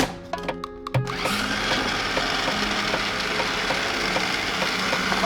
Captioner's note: machine whirring